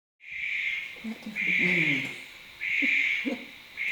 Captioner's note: bird noises